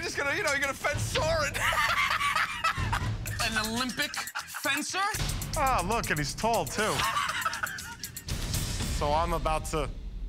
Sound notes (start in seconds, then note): 1.5 laughs; 6.8 laughter